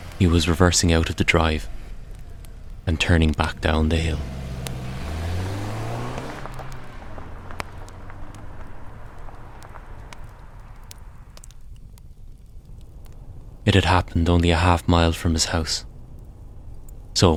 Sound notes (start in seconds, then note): 8.1 internal sounds of car driving in background